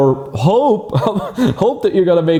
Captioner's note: chuckles